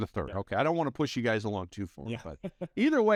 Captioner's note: laughing